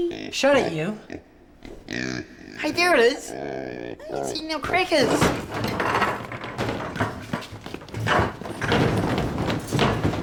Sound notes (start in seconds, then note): 1.6 pig oinks